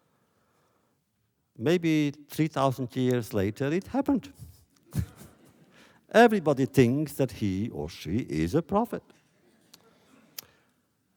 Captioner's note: laughter